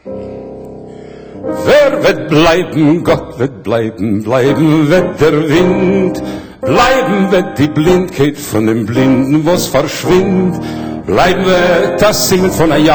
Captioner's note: Yiddish